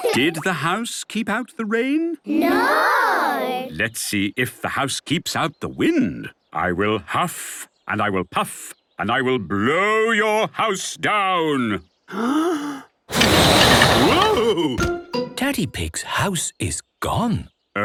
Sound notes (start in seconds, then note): 0.0 laughter; 12.1 inhaling deeply; 13.1 blowing